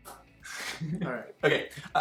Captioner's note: laughing